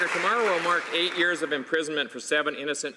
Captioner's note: applause